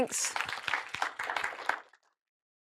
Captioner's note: applause